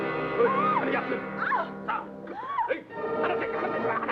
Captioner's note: Pilar yells; adventurous music